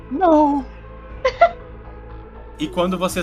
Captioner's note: laughs